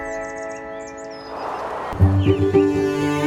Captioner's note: birds; windstorm